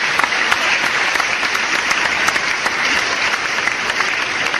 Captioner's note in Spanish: aplausos